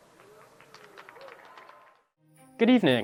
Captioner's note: crowd cheering and clapping